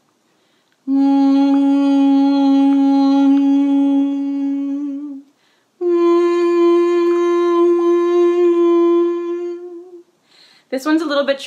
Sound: mouths the words while vocalizing a droned "ng" sound

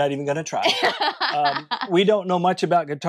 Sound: laughing

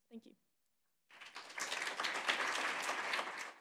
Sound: applause

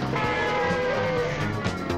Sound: car horn honking

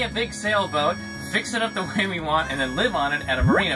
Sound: beeping; laughs

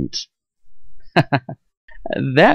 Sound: chuckles

